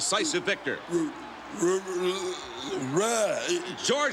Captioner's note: George grunts incoherently